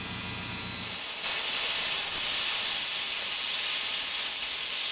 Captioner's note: welder sputtering